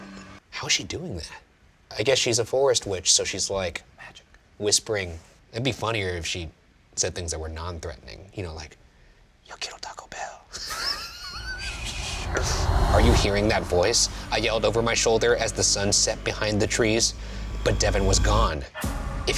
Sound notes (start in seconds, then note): 9.0 speaking in foreign language; 10.6 laughing